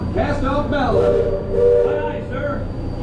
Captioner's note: steam whistle